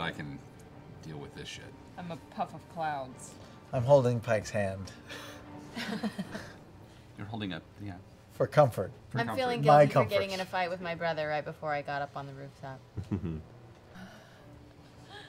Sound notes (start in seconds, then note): 5.7 laughter